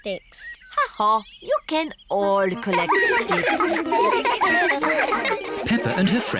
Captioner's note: all giggling